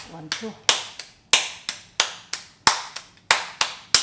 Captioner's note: hand slapping